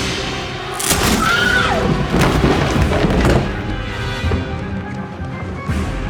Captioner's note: Cassandra screams and thuds